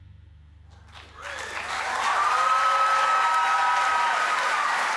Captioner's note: cheering and applause